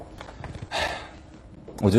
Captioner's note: sigh